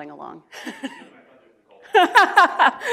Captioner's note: chuckles; speaking off mic; laughs